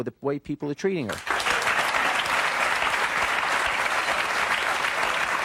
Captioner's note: audience clapping